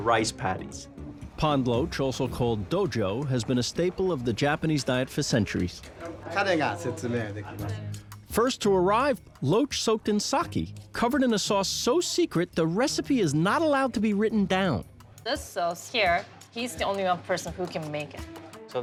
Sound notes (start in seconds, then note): 6.0 speaking Japanese